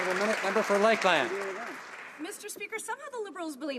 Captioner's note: some Applause